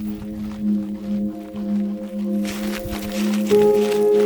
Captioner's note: Vilk scratching